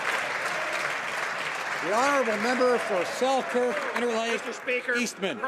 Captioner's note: some Applause